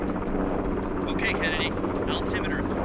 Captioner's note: man over radio